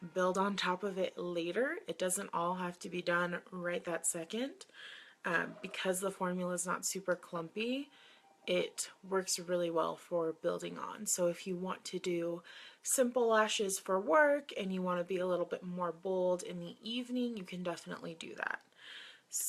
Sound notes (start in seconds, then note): none